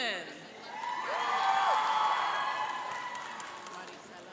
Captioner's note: cheering and applauding